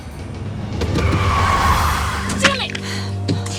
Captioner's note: breaks squealing